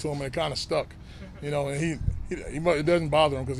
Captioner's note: journalists laughing